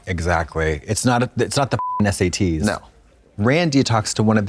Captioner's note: beep